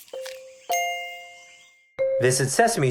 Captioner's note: food crunching; chimes tinkling